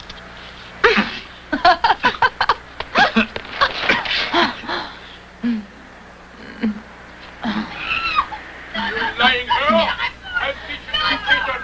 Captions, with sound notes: (laughing) (screaming) >> You lying girl!